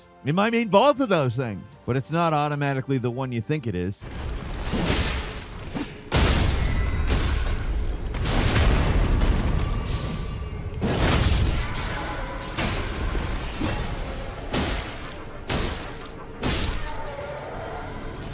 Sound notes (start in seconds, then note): 4.6 sword smashing; 14.7 sword smashing